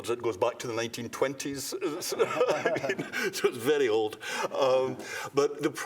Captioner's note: laughter